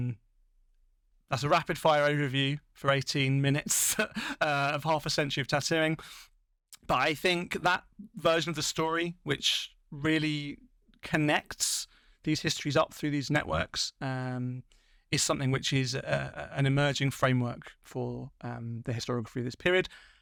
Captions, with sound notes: That's a rapid-fire overview for 18 minutes [LAUGHTER] of half a century of tattooing. But I think that version of the story which really connects these histories up through these networks is something which is an emerging framework for the historiography of this period.